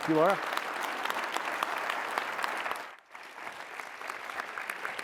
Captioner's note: applause